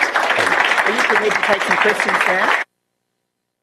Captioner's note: applause